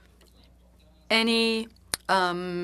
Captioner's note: speaking French